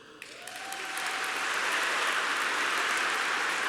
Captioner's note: applause